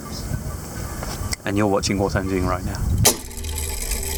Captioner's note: fingers snap; mechanism whirring